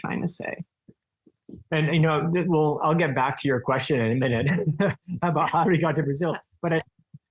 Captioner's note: chuckle